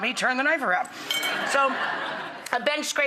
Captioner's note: laughter